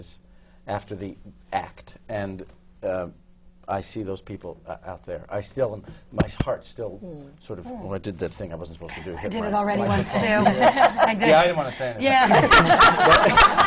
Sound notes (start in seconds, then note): 6.2 pounds his chest